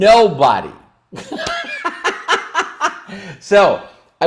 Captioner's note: laughs